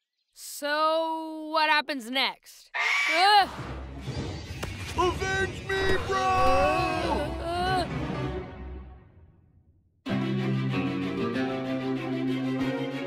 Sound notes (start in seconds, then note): 2.7 bird screeches; 2.7 screams